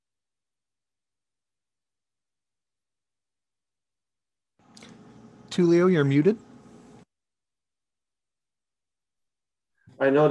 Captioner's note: audio silent - technical issue